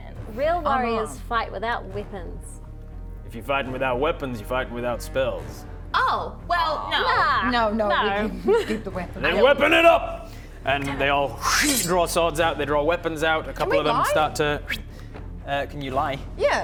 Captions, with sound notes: Real warriors - Unarmed fight without weapons If you're fighting without weapons you're fighting without spells Oh well no No no We keep the weapons Then weapon it up! And they all - Dammit *shing* draw swords out, they draw weapons out A couple of them - Can we lie? start to Can you lie? Yeah